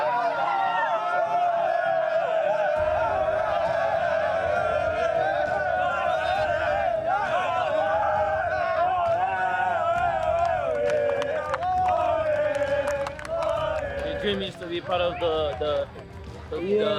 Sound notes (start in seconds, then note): 3.0 team cheering